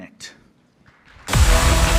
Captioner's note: applause